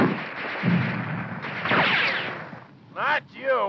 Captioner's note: guns firing